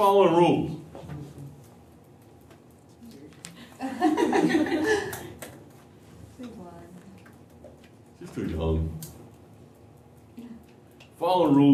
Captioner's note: laughter